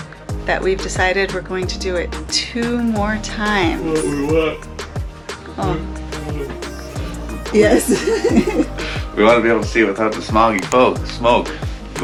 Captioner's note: yawns